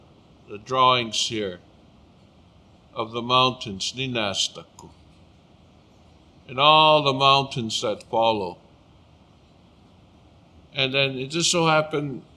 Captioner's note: speaking Blackfoot